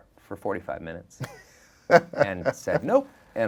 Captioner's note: laughing